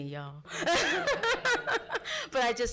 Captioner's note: laughs